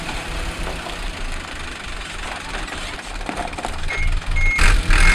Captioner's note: truck beeping as it backs up